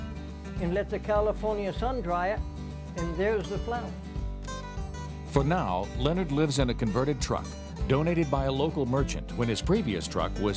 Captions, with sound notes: And I pull my fist out and let the California sun dry it, and there's a flower. - [Voiceover] For now, Leonard lives in a converted truck donated by a local merchant, when his previous truck